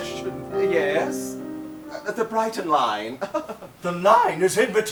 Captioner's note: laughs